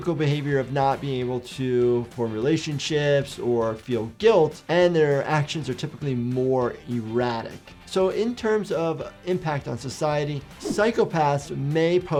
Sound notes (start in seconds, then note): none